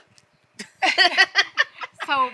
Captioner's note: laughing